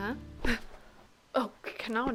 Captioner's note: startled exhale